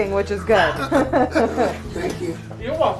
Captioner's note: laughter